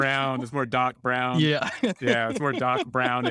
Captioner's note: laughing